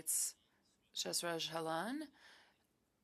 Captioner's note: speaking French